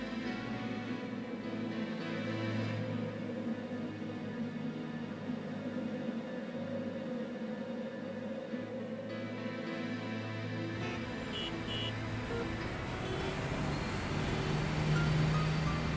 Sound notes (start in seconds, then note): 10.8 car Horns Honking</i>